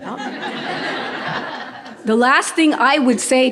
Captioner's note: audience laughing